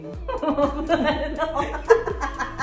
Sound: laughs

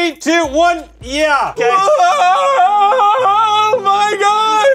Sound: crying

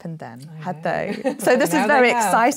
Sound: laughs

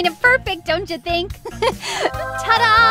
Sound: laughs

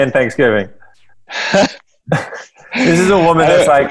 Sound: laughing

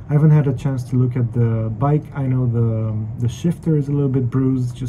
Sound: none

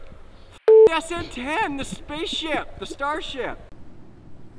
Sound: beep

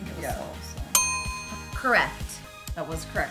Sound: dinging

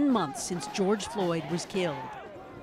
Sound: chanting

